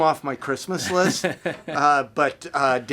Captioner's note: laughing